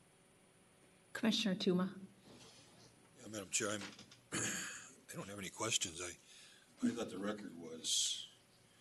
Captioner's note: clears throat